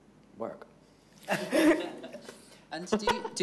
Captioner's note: all laughing